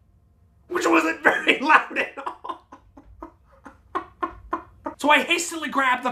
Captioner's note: laughs